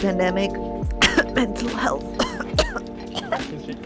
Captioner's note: very telling coughing